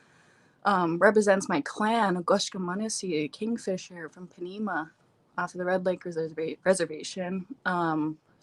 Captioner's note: speaking Ojibwe